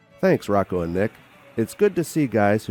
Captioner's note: voiceover